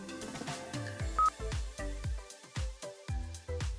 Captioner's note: system beeps